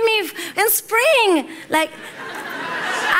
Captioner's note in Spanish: Risas